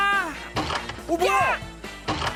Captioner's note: thud!